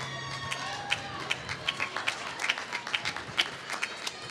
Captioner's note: applause